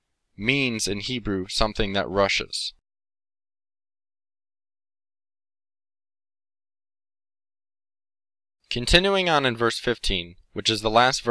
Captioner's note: in Hebrew